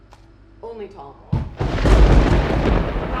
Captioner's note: thunder crackles!